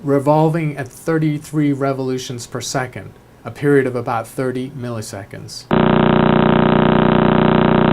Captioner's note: pulsar sound